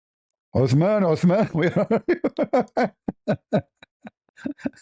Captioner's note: ketawa